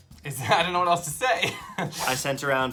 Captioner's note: laughs